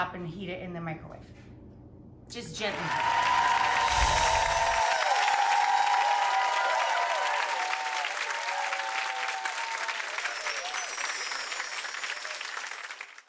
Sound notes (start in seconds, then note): 3.5 crowd cheering